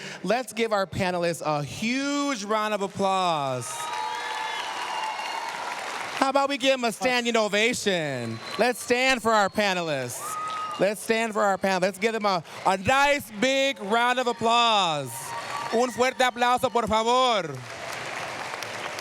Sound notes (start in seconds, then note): 4.3 cheers, applause; 15.7 speaking spanish